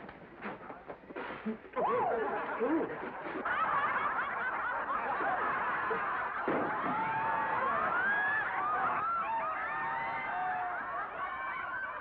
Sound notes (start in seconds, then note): 1.7 woman yelps; 3.1 laughter & commotion; 6.4 bottle bangs on floor; 7.6 laughter